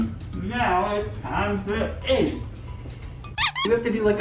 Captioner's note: mouthful talking